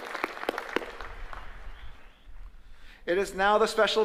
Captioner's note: applause